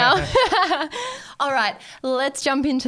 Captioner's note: laughing